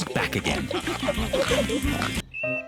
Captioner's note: all giggling and snorting